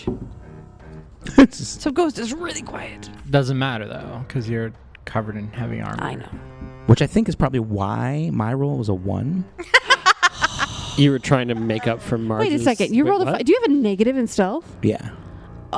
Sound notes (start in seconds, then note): 9.6 laughs